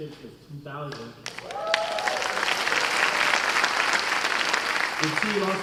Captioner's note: cheers and applause